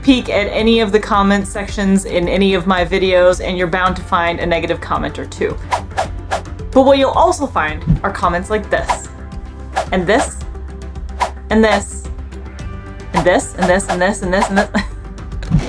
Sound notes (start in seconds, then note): 5.6 rapid whooshing sound effects; 5.7 background music; 14.8 background music